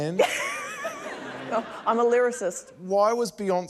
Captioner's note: laughter